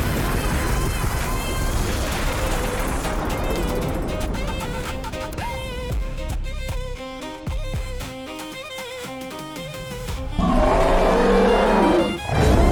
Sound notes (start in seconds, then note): 9.5 thunderclap